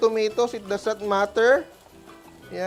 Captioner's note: sizzles